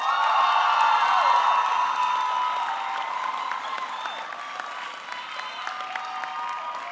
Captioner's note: audience cheering; audience clapping